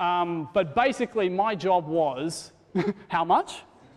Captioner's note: laughs